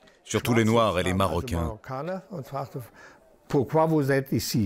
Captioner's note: German spoken audio